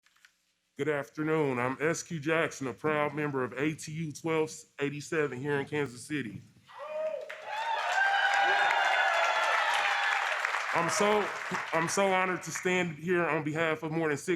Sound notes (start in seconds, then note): 7.0 applause